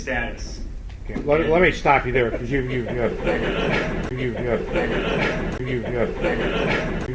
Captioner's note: audio repeats and cuts off